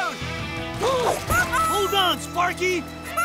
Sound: gasping

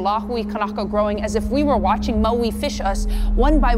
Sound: horn blaring

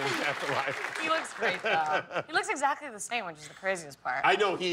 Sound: laughter; applause

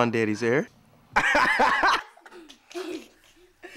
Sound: laughter

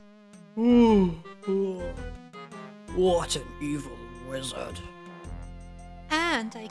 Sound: yawn

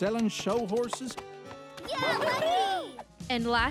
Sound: girls cheering

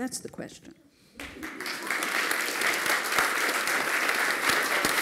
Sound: applause

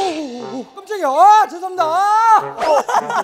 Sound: apologizing in fear

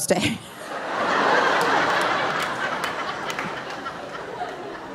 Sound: audience laughing; laughs

